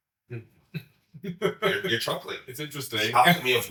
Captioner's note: chuckling